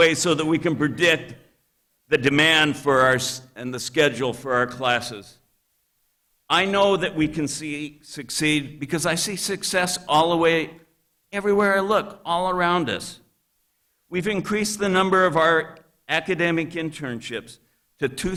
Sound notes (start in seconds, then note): none